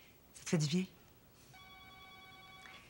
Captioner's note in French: sonnerie de cellulaire